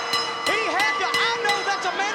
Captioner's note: bell rings